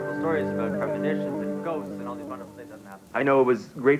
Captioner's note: background group chatter